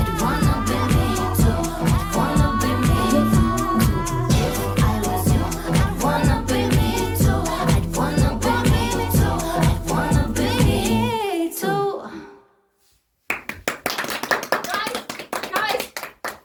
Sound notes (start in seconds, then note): 13.2 audience claps